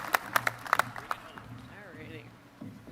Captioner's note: applause